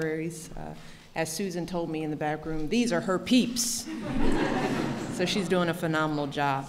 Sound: laughter

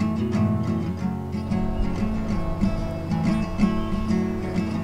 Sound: light wind blowing

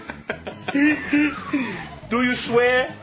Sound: both laugh

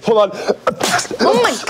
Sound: more sneezing

